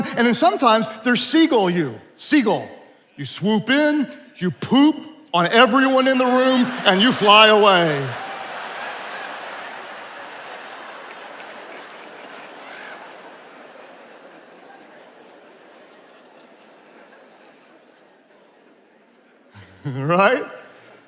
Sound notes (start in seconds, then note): 8.1 attendees laughing